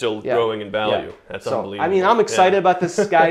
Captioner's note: laughs